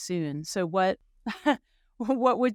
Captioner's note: chuckling